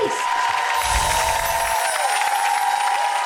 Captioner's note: applause